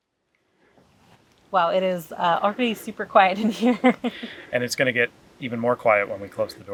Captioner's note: laughs